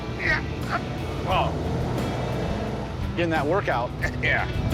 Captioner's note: engine rumbles; grunting